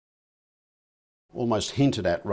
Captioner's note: silence